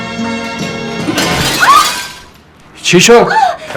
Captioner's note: sound of something breaking